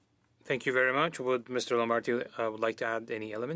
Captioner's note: speaking French